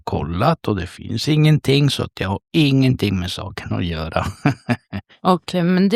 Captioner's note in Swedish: skratt